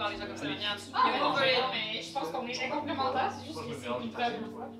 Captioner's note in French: brouhaha de voix